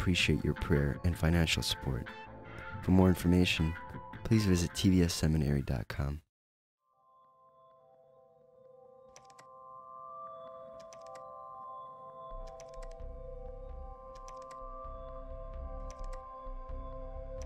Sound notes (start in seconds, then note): 6.9 instrumental music plays; 11.5 keyboard clicking